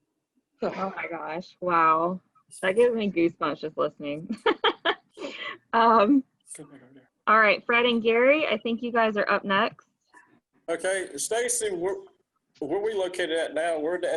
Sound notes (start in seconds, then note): 4.4 laughing